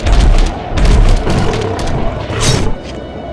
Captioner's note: beast growls; claw clinks